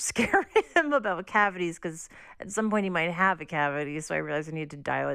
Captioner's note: laughter